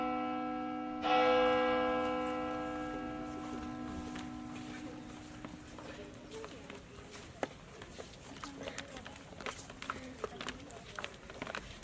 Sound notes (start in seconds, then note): 0.0 bell chimes; 1.1 footsteps